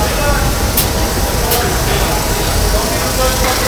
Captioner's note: screaming